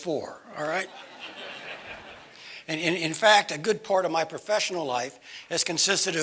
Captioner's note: laugh